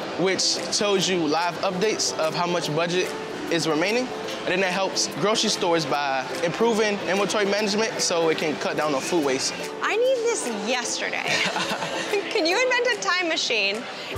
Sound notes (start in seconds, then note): 11.2 laughs